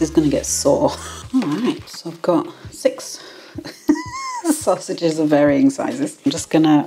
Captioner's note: laugh